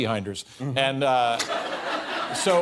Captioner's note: laughter